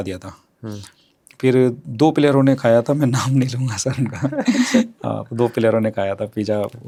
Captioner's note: laughter